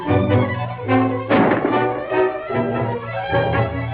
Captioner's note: gunshot